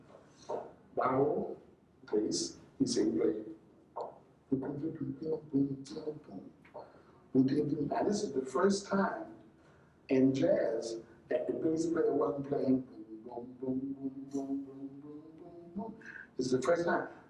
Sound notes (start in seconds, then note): 3.9 humming